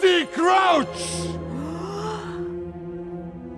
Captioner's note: gaaaaaaaaasp